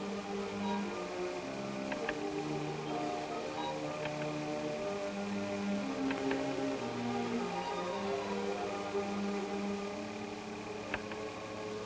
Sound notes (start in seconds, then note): 2.0 slides clicking